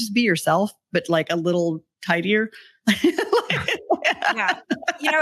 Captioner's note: laughs